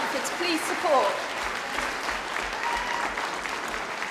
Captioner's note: applause